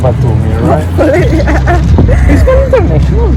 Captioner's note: laughing